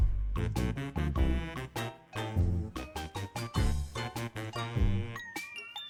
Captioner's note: laughs nervously